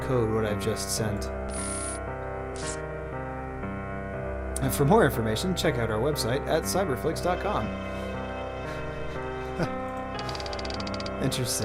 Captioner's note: laughs